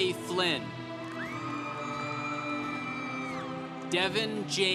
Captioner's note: congregation cheering